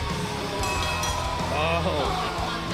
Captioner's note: bell ringing